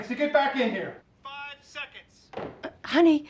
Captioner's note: on phone